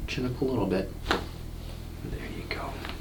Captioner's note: neck pops